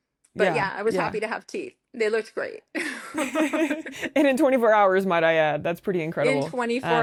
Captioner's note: laughter